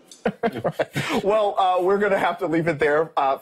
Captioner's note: laughing